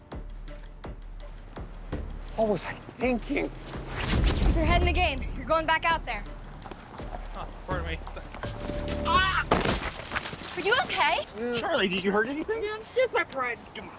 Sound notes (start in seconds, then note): 3.7 zapping; 9.1 screams